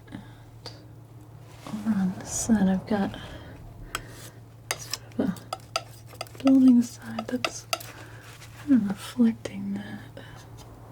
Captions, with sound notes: And around this side I've got (tapping) Building side that's kind of reflecting that